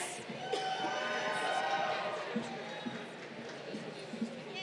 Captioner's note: crowd cheering